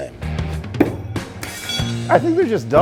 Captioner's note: knife thudding